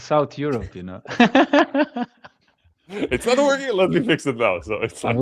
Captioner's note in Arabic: ضحك